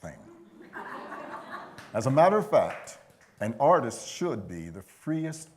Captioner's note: laughter